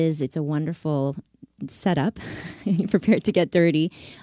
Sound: laughs

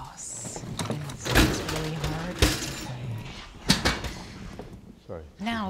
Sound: gurney crashes loudly

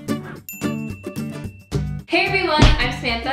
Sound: playful guitar music; dinging

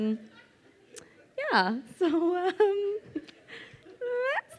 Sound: laughs

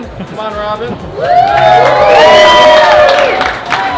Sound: applause

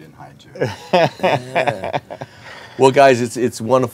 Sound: laughs

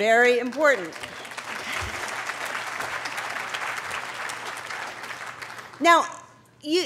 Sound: applause

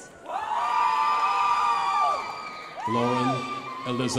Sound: crowd applauding

